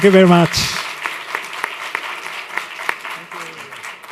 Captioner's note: applause